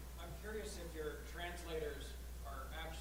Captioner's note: voiceover